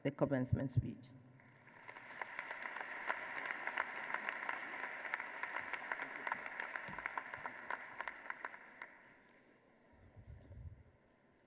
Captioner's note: applause